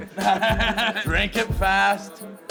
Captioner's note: cackling